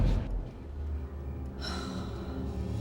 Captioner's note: sighs